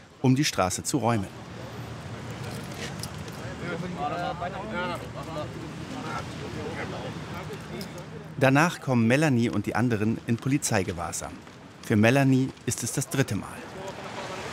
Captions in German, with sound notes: um die Straße zu räumen. (Stimmengewirr) Danach kommen Melanie und die anderen in Polizeigewahrsam. Für Melanie ist es das dritte Mal.